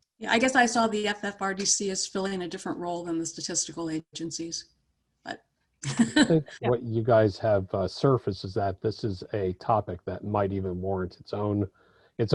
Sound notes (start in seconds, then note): 5.9 laughs